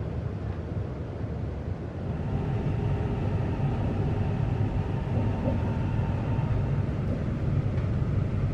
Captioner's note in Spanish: sonido de salida del tren SFE400